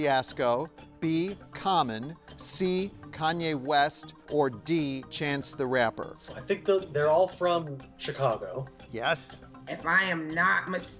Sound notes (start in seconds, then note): none